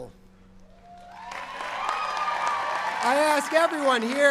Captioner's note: cheering and applause